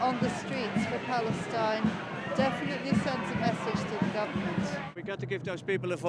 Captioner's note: cheers and applause